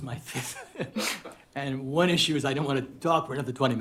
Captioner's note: laughs